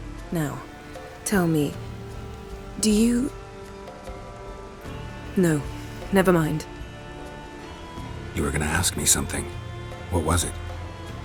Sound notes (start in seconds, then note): none